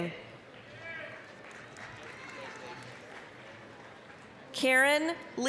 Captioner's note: applause, cheering